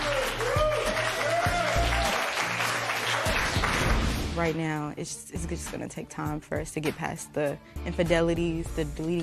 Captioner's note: cheers and applause